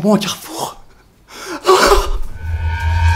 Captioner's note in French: respiration